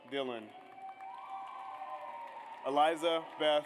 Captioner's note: audience cheers